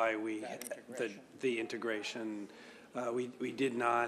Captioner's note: off microphone